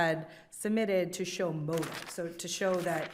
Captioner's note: papers crinkling